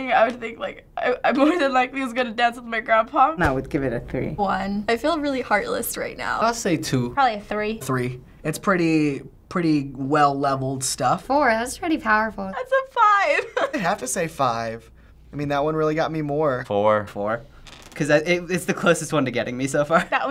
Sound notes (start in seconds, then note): 12.6 choked up